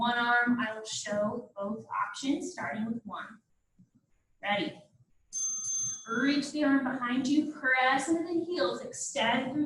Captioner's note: ding,ding